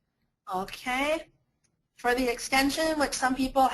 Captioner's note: voiceover